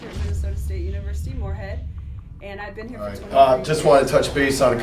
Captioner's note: explosion booms